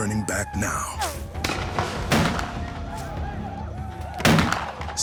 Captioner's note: gunfire